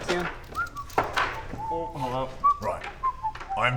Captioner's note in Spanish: Silbido